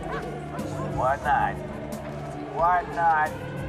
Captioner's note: voiceover